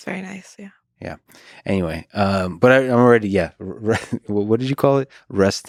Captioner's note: chuckles